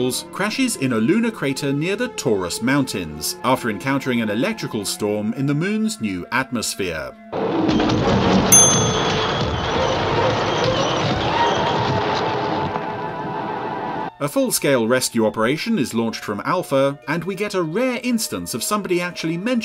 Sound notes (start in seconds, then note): 8.5 bell dings; 9.0 loud crashing; 11.7 tyres screeching